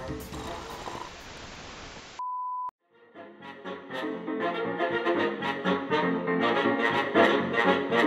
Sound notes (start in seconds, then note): 0.2 slurping orange juice